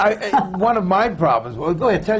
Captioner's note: laughs